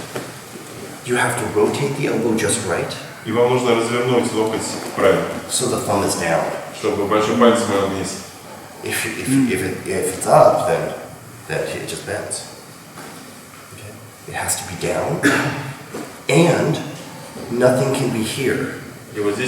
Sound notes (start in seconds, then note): 3.5 speaking in a foreign language; 7.0 speaking in a foreign language